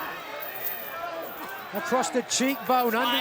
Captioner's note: fans chattering